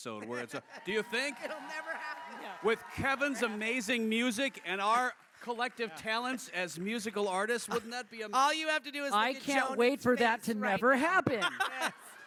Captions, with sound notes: - where it’s a... Do you think? - It’ll never happen! [cheers] With Kevin’s amazing music and our collective talents as musical artists. Wouldn't that be-- All you have to do is look at Jhonen’s face right now. I can’t wait for that to never happen.